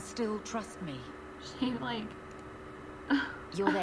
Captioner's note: laughs